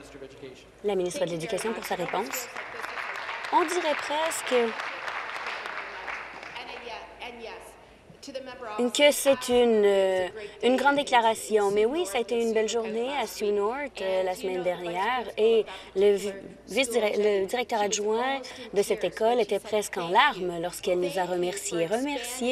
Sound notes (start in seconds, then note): 1.5 applause; 8.1 applause